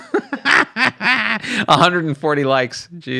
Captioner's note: laughs